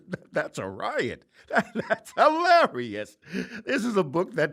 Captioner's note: laughing